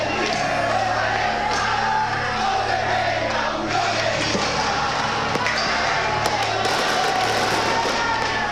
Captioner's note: crowd Chanting